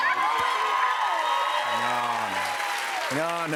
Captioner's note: cheers and applause